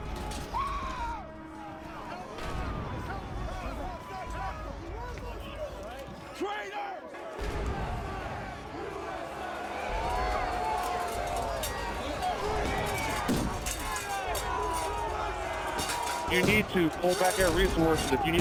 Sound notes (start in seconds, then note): 0.2 crowd yelling, screaming; 7.9 crowd yelling, chanting; 10.4 metal clanging